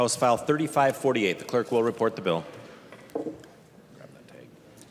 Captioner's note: gavel